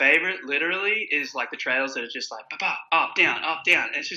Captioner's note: imitates wheels popping